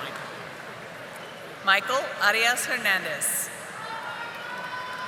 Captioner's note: audience applauding